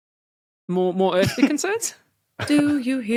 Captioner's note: snicker